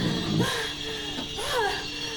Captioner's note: lady breathing heavily